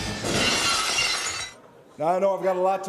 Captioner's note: glass shatters